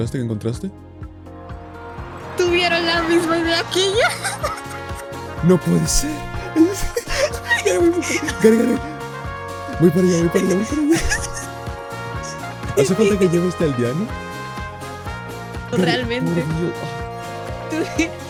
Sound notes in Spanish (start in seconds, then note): 7.3 sonidos de felicidad; 9.6 más sonidos de felicidad